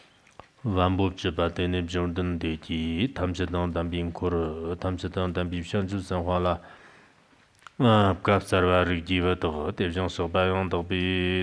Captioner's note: giving oral transmission in Tibetan